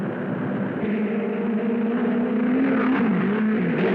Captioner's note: cars whirring